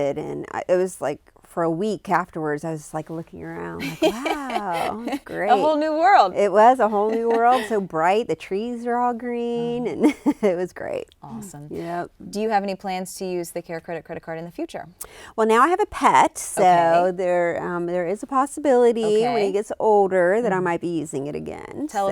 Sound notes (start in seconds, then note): 3.8 laughs